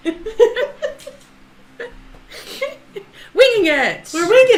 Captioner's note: both laugh